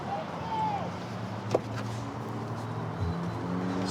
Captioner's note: indistinct shouting; vehicles driving